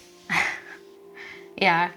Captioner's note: chuckling